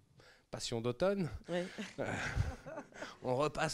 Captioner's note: laughs